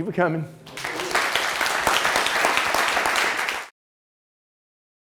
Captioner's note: applause